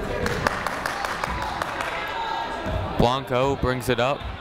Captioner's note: clapping